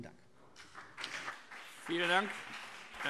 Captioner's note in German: Beifall BÜNDNIS 90/DIE GRÜNEN und vereinzelt CDU